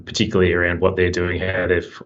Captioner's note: murmurs